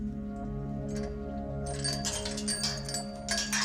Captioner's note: chain rattling